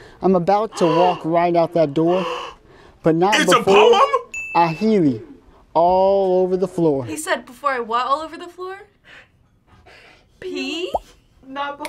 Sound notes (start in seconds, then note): 2.1 gasps